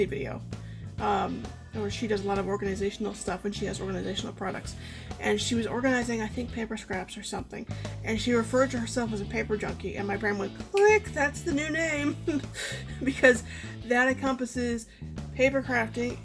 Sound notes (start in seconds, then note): 10.7 click; 12.2 laughs